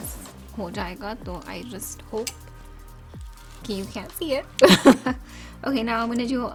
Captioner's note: laugh